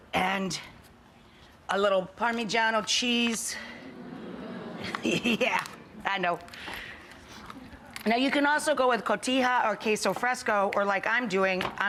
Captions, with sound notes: and a little Parmigiano cheese. (Audience ohh and ahhs) Yeah, I know. Now, you can also go with Cotija or queso fresco or like I'm doing,